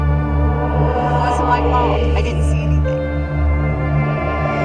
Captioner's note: speaking distorted